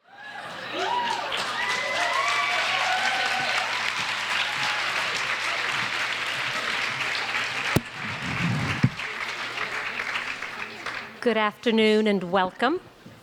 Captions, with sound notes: (audience applauds) (audience cheers) - Good afternoon and welcome.